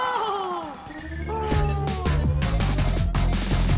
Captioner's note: screams